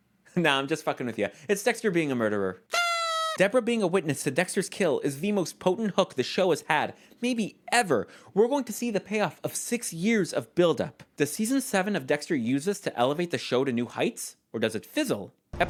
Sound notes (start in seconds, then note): 2.7 blows party noisemaker